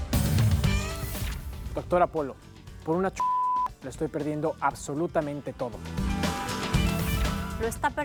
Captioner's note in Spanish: Bip